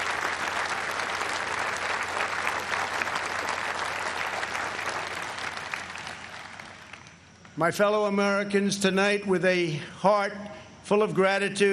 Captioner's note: applause